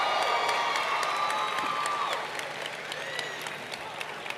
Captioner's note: cheers and applause